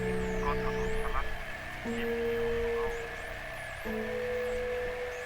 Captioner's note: radio chattering